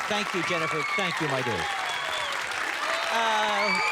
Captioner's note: cheers and applause